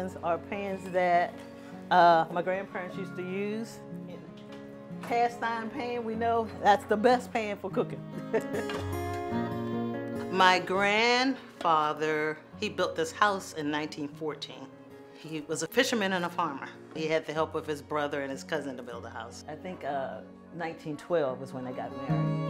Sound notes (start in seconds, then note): 8.1 chuckles